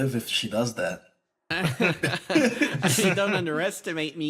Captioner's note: laughs